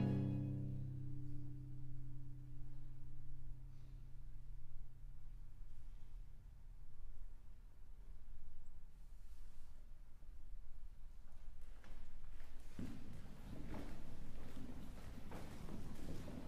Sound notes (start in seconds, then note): 11.2 numerous footfalls